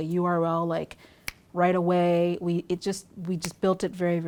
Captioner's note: snapping fingers